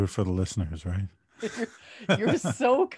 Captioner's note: laughter